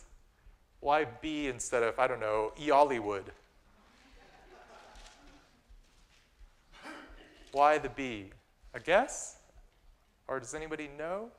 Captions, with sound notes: Why B instead of -- I don't know -- Eollywood? [ Laughter ] Why the B? A guess? Or does anybody know?